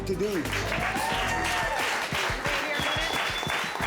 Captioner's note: audience applauding and whooping